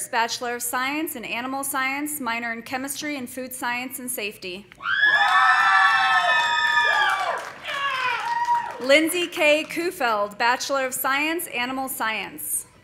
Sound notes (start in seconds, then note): 4.8 audience cheering; 5.0 audience applauding